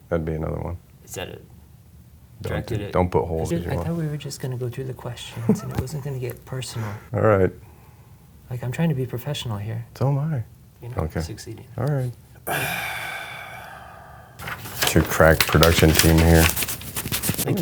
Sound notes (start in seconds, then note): 12.4 sighs